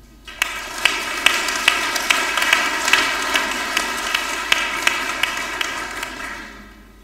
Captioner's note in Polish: oklaski